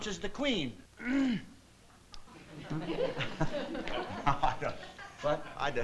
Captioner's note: clears throat